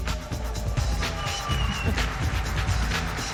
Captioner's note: applause